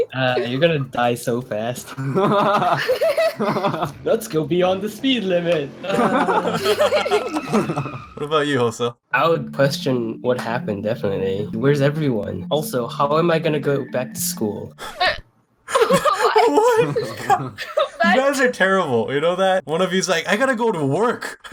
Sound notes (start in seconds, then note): 1.5 they Laugh; 5.7 they Laugh; 7.0 zooms; 15.7 they laugh in Confusion